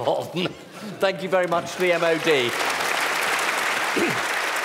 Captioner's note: applause